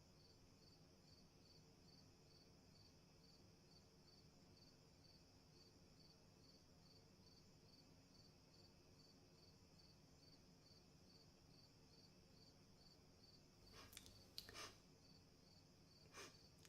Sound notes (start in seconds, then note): 13.7 sniffing